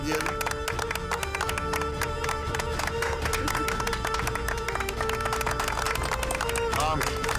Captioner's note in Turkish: Alkışlarlar